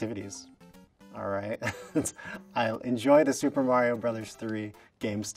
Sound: chuckle

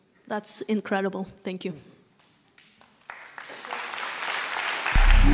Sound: audience applause

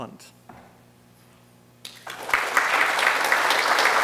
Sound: applause

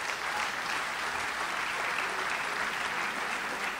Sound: audience applauds

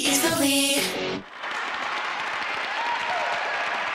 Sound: crowd cheers

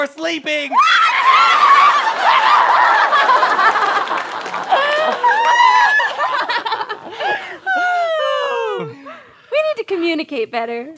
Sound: laughter

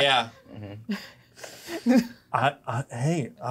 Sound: co-hosts laughing

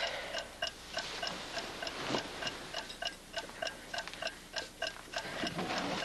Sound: clock ticking

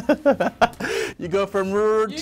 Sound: laughs

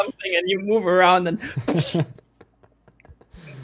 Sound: laughter

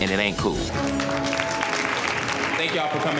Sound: attendees applauding

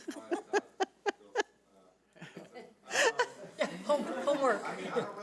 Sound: laughing; laughing drowns out speaker

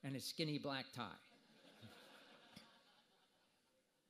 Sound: audience laughter

